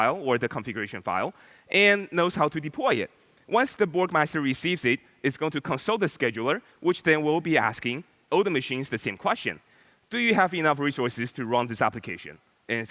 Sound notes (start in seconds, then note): none